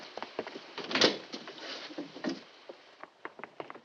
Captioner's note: door opens